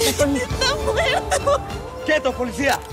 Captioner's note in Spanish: Sollozos